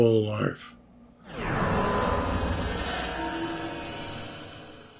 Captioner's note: logo swooshes